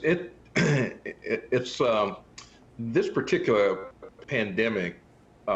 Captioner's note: clears throat